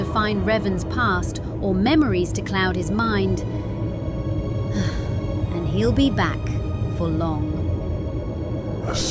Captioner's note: sigh